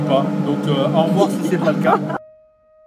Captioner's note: laughs